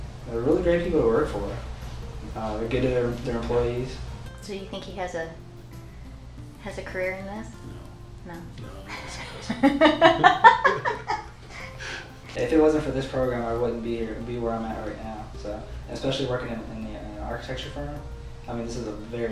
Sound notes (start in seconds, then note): 8.7 laughs